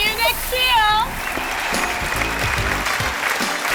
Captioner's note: whistling and applause